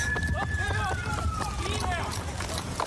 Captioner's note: shouting